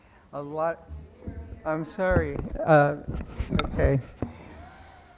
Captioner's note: off mic speaker